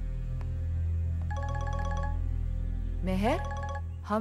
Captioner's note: Ringing continues